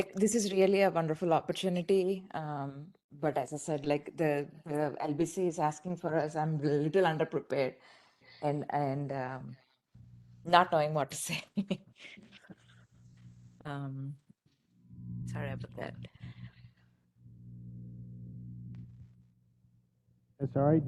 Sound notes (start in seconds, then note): 13.1 laugh